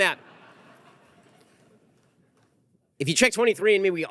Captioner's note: audience laughter